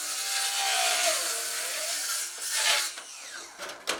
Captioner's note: saw grinding